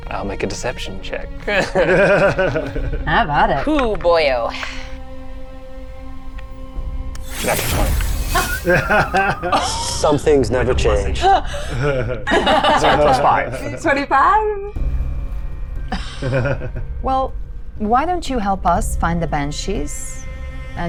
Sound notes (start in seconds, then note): 1.4 giggles; 8.4 everyone laughs